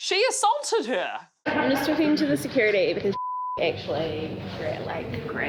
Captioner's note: beep